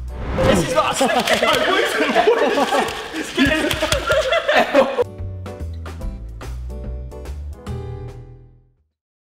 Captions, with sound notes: - This is what I slipped in! (all laughing) (gentle relaxing music)